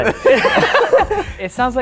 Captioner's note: laughing